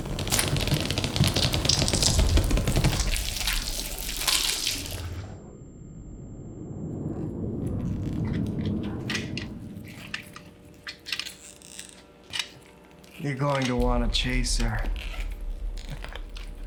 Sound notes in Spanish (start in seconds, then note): 0.0 huesos crujiendo; 8.9 chasquido del matraz